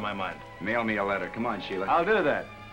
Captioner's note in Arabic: ببرود